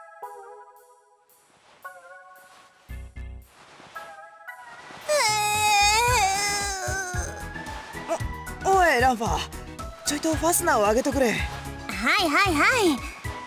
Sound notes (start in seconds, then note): 5.1 sob